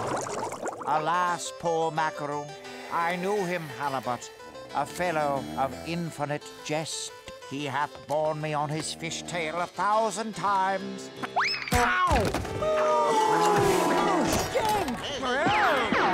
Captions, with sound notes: Alas, poor Macaroo, I knew him, Halibut, a fellow of infinite jest. He hath borne me on his fish tail a thousand times. Ow! [booing] Whoa!